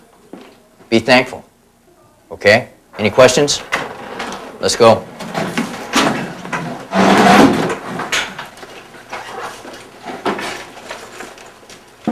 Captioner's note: chairs moving